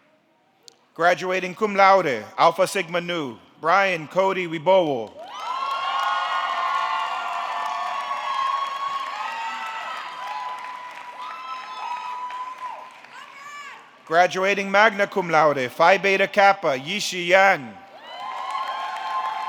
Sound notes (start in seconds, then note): 5.2 audience clapping; 5.2 audience cheering